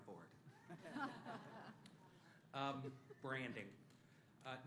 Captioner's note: laughter